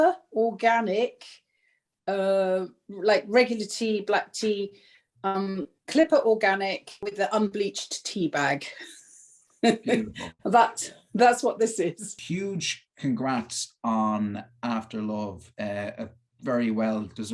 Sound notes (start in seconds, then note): 9.6 laughter